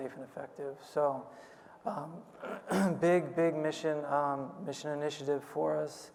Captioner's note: clears throat